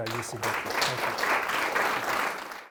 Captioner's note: applause